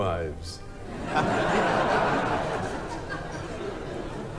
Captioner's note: crowd laughing